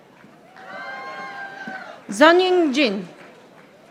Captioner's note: audience applauding